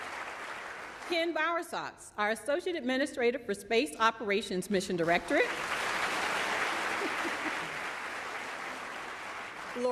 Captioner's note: applause